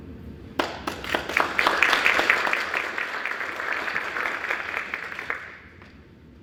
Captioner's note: applause